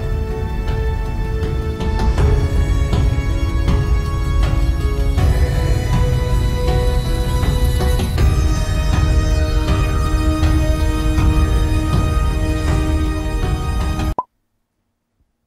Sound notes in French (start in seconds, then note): 0.0 musique de suspense; 14.2 pop